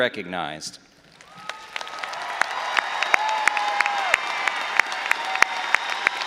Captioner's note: all applauding and cheering